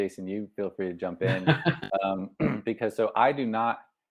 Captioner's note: laughs